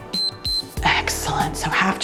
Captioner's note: timer beeps